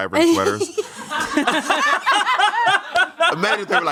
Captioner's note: everyone laughs